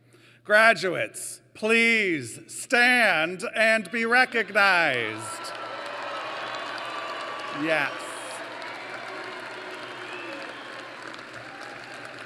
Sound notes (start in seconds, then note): 5.0 cheering; 8.2 applause